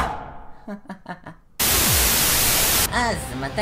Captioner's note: static Effect